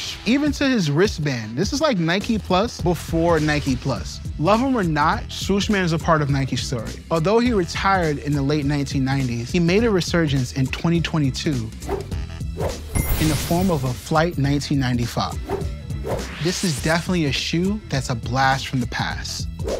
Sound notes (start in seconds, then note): 12.5 air whooshes; 12.9 bell dings; 15.4 air whooshes